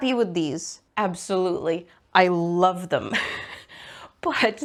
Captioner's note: laughs